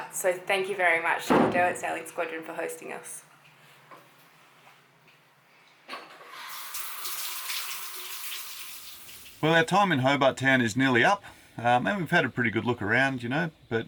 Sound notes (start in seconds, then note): 6.2 shower runs